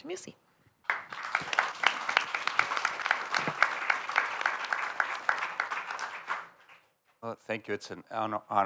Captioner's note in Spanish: aplausos